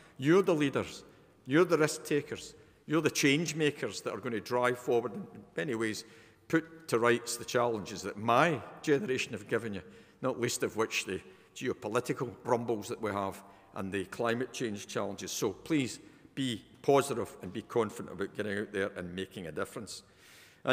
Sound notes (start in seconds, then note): none